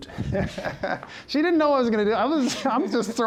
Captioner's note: laughs